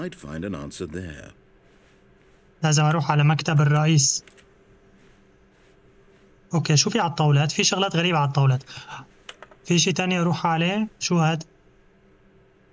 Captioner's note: clock ticking